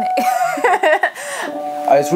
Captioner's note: laughs